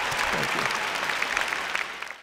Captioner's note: applause